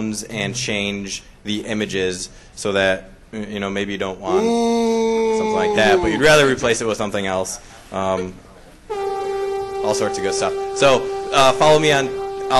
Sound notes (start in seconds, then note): 4.3 boos; 8.9 electronic tone